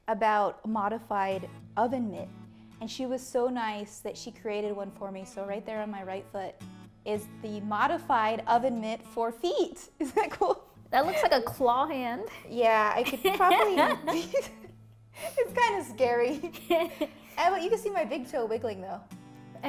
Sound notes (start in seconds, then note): 13.0 laughs